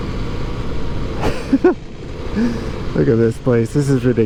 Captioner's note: laughs